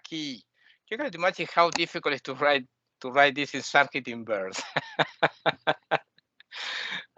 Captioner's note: laughing